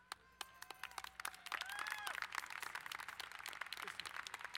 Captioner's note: applauding